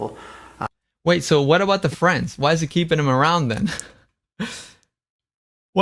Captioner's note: laughs